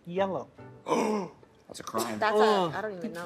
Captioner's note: gasping